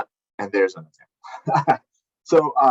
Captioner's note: laughs